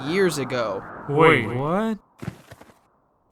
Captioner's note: voice changes